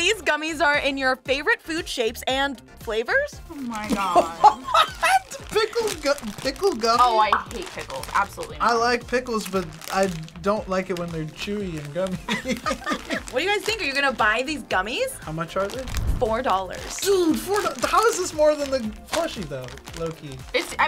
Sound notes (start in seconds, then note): 3.9 laughs; 12.0 both laugh